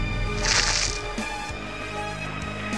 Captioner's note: squish